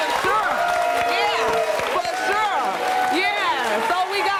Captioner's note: audience clapping